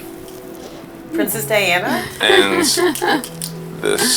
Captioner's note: laughs